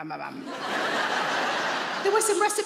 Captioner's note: audience laughing